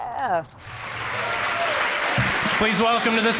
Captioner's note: laughs; applause fades in